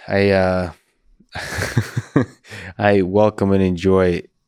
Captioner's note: laughs